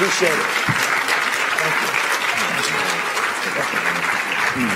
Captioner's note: applause